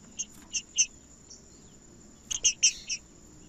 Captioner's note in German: trinca ferro cantando